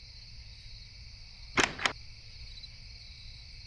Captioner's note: door opens